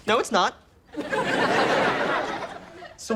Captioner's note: audience laughs